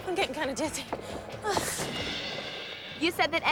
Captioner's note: groans